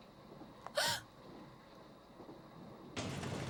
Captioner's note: gasps